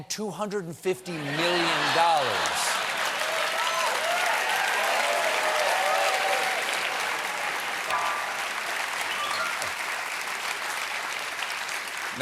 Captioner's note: cheers and applause